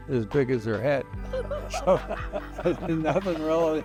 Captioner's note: both chuckle